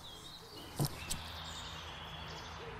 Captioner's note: birds chirping